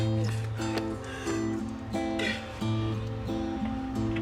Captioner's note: breathing heavily